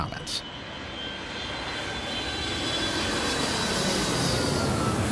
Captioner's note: airplane roaring